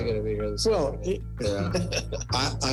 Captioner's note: laughter